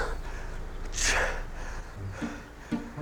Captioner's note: sighs